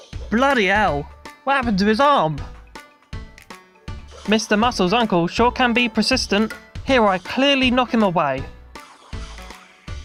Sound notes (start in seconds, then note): none